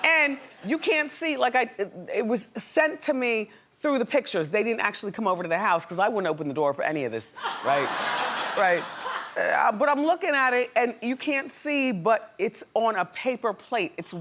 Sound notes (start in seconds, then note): 7.4 audience laughs